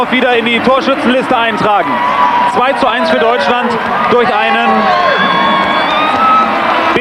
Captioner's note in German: jubel